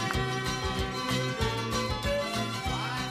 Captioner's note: applause